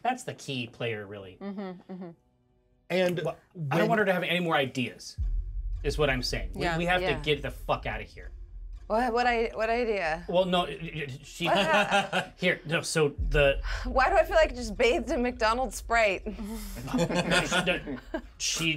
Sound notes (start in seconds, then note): 11.3 laughs; 16.5 laughs; 16.8 speaker chuckles